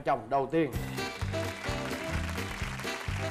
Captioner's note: claps